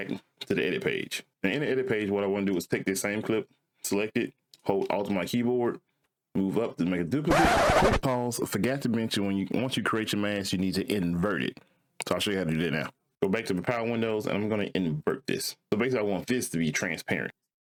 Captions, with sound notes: to the edit page. And in the edit page, what I wanna do is take this same clip, select it, hold alt my keyboard, move up to make a duplicate. (record scratching) Click pause, forget to mention when you, once you create your mask, you need to invert it. So I'll show you how to do that now. Go back to the power windows and I'm gonna invert this. So basically I want this to be transparent.